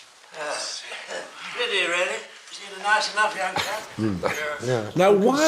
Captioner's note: sighs